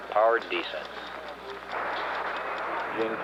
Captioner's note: ticking